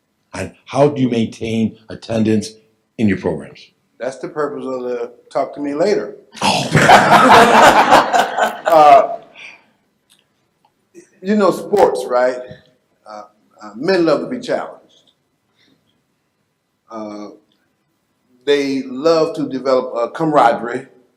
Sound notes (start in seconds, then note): 6.5 all laugh